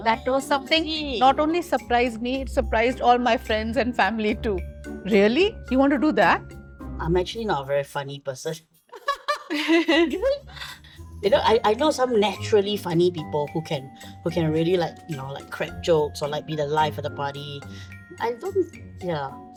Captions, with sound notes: That was something not only surprised me, it surprised all my friends and family too. Really? You want to do that? I'm actually not a very funny person. (LAUGHS) You know, I know some naturally funny people who can really, like, crack jokes or be the life of the party. I don't... Yeah.